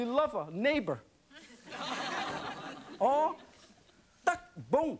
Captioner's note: laughing